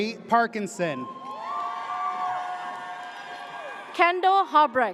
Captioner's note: audience cheers